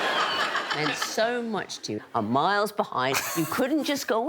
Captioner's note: all laughing